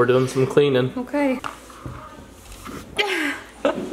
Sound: laughs

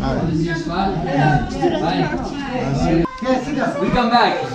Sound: crowd murmuring

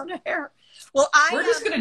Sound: speaking normally; giggling

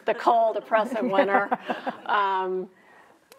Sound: chuckling

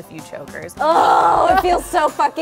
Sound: groans

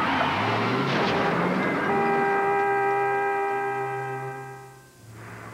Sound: horn blaring

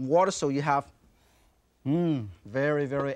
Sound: chef inhales audibly

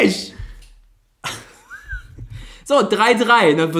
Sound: laughs

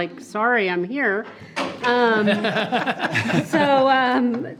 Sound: everyone laughs

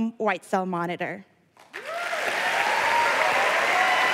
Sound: applause

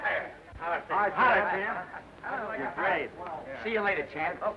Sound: men greeting each other

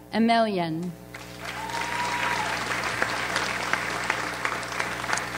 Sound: audience applauds

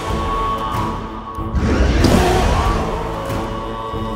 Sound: roars

